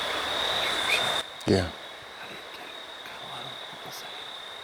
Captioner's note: whispering